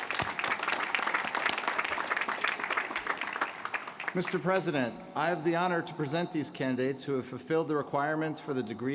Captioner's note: applause